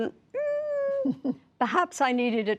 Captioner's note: laughter